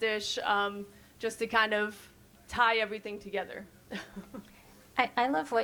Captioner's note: chuckles